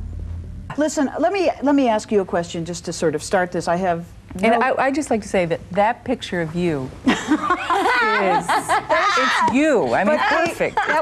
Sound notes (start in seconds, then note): 7.1 laughing